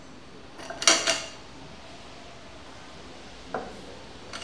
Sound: plates sound

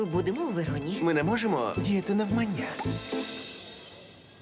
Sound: smacks lips

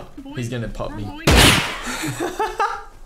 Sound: gunshot

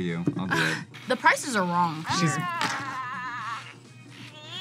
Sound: Furby yells

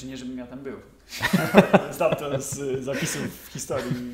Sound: laughter

